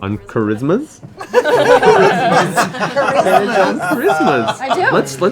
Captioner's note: laughter